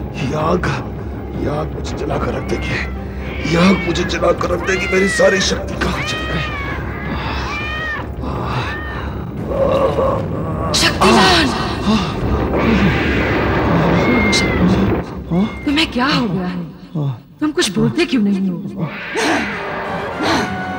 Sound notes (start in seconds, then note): 6.6 cat yowling; 19.1 grunting